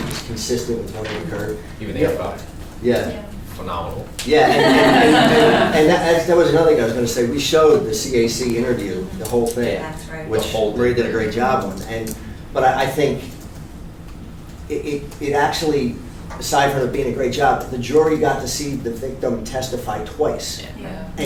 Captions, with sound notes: with what had occurred, even-- - Yeah, boss. - Yes. - Phenomenal. - Yeah. (all laugh) - And that actually was really nothing, so I said, "We showed the CAC interview, the whole thing." - That's right. - Which sold. Ray did a great job. But I think it actually, besides her being a great job, the jury got to see the victim testify twice,